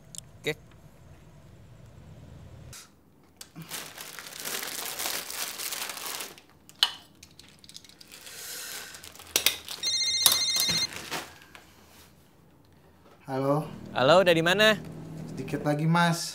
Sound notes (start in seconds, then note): 9.8 phone ringing